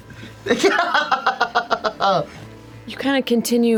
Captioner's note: laughs